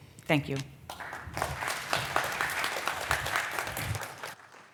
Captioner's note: applause